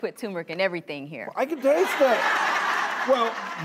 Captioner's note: audience laughs